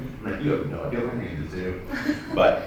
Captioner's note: laughter